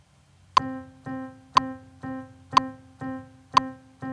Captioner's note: metronome